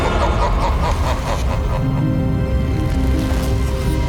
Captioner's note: dramatic music continues; Elven King laughs